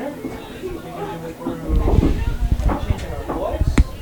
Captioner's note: people chattering